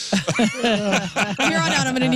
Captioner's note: laughing